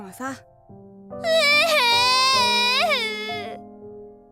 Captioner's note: still sobbing